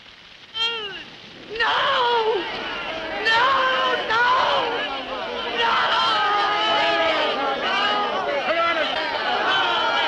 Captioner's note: crowd shouting